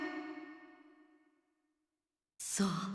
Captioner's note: silence